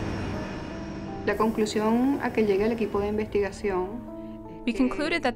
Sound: speaking in Spanish

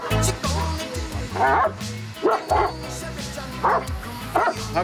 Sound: dog barking

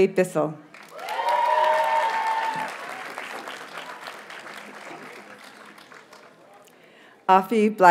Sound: audience cheers and applauds

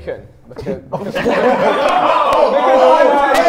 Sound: Sidemen laugh

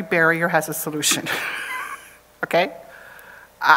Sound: chuckles

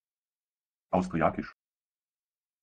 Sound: fast Pronunciation

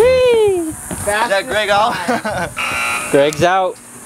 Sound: laughs

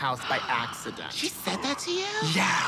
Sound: gasps

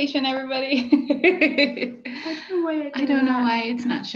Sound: laughter

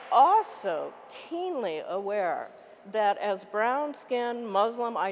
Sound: applause

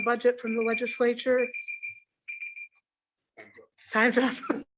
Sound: alarm rings

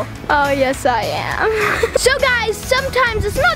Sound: laughs

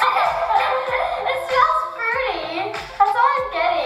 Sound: laughs

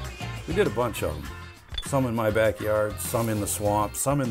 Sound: metal clinks

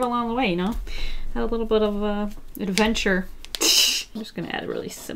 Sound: laughs

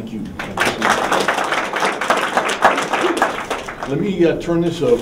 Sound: applause

